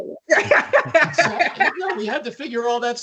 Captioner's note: laughs